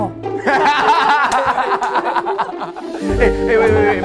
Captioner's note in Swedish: hahahahahaha